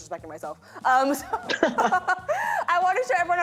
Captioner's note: both laugh